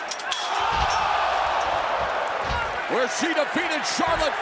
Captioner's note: crowd cheering